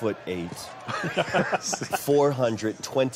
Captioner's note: laughing